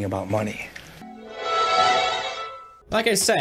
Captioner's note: Pinocchio magic sound